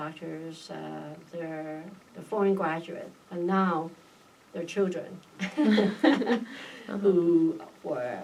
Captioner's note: laughs